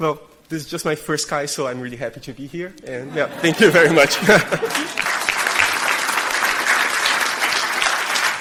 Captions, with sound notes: - Well, this is just my first CHI, so I'm really happy to be here. And yeah, thank you very much. (audience applause)